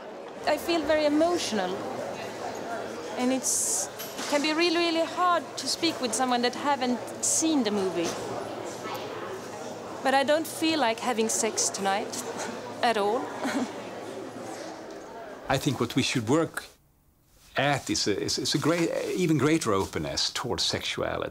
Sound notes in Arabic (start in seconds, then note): 13.3 ضحك